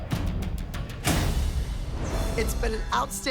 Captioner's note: slams door